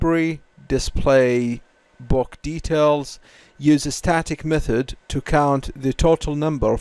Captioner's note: static